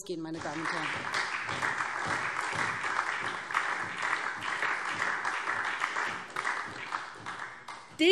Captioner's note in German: Beifall SPD